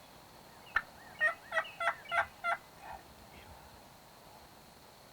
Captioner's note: turkey calling